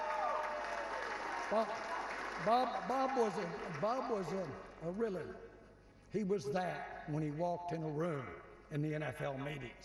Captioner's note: applause